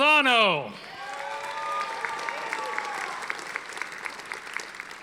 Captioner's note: audience applauding